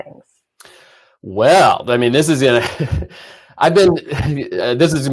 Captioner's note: laughs